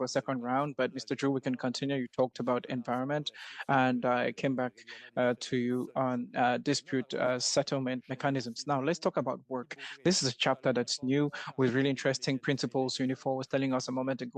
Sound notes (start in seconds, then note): 2.9 speaking French